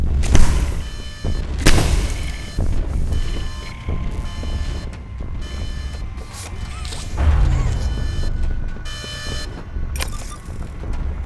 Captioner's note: gun firing